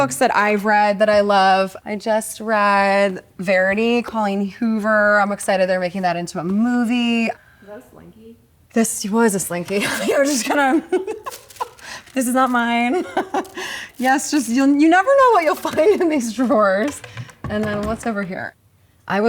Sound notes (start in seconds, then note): 9.8 laughs; 13.3 chuckles